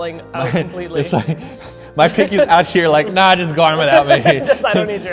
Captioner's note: laughing